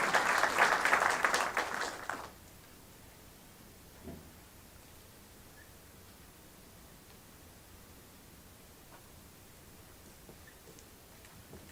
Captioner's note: applause